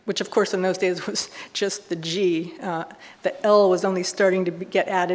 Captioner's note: none